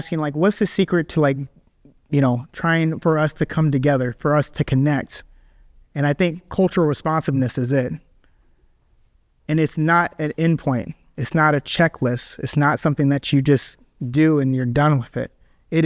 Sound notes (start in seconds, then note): none